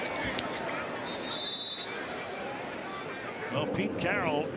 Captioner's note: whistle blowing